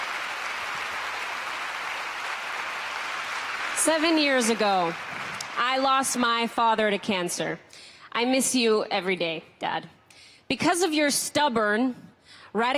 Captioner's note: applause